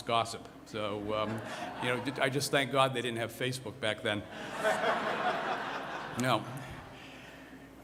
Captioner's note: laughter